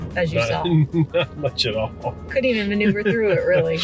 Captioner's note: laughs